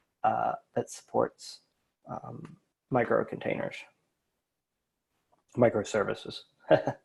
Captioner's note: laughs